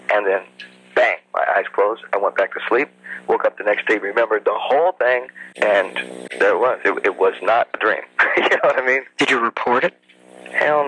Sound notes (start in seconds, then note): 8.1 laughs